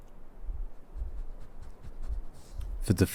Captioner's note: Amy sniffing and licking